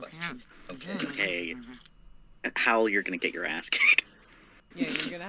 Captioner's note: grumbles